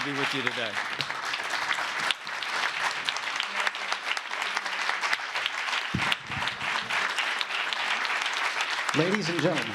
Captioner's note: applause